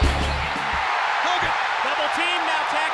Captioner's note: audience cheers